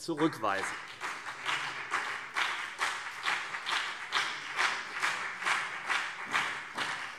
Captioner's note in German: Beifall CDU und BÜNDNIS 90/DIE GRÜNEN